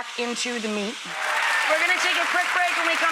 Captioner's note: audience applauding